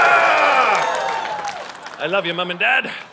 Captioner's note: audience cheering